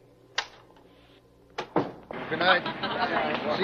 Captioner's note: door closing